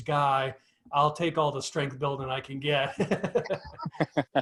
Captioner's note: laughs